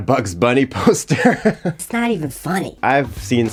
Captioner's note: chuckling